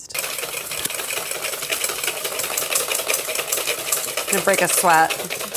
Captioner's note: whisk clangs on bowl